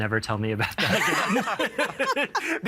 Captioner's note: all laughing